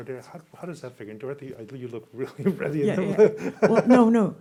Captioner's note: laughing